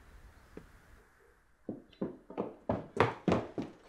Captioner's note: footsteps clattering